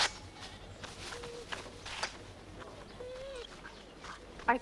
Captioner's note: Beast whines